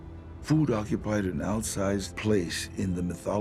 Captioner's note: in English